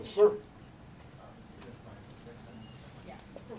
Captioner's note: low voices